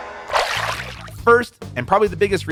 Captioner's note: water splashes